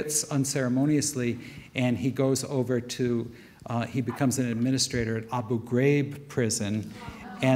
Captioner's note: audience murmurs